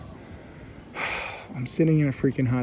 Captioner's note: sighs contently